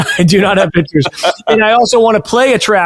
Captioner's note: laughing